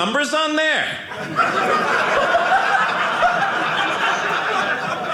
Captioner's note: audience laughing